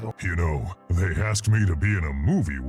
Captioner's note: voiceover